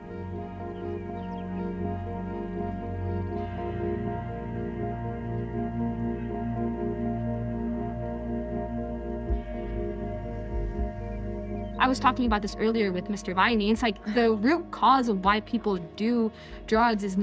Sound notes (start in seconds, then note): 1.6 birds chirping; 1.6 soothing music